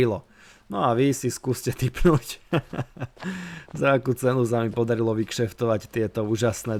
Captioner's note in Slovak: smiech